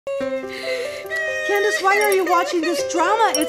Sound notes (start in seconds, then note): 0.1 gentle piano music; 0.2 crying